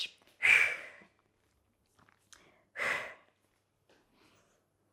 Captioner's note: breathing sharply